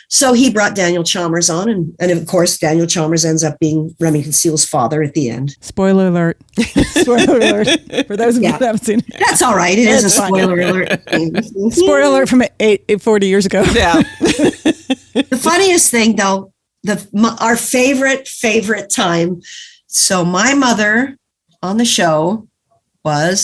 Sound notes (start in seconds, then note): 6.5 laughs; 13.3 guffaw; 13.6 laughs